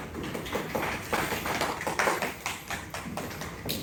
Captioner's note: light applause